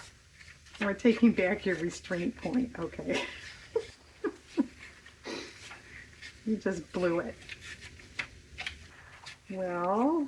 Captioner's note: laughs